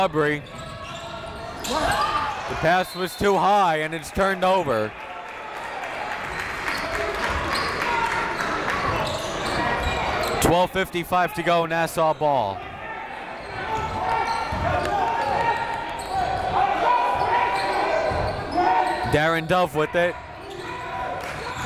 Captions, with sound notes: Aubrey, the pass was too high and it's turned over. (crowd applauds) 12:55 to go, Nassau ball. (crowd talking) (coaches yelling) Darin Dove with it